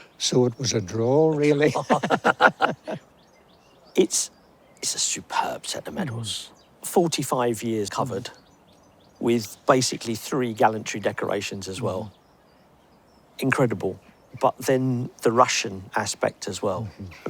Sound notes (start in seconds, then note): 4.0 they laugh